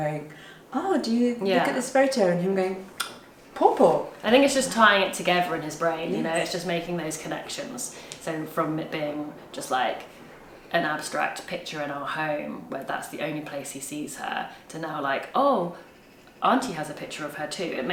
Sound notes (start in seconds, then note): 2.9 speaks a foreign language